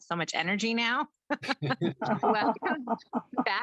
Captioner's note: panelists laugh